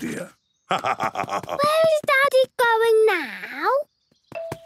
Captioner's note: laugh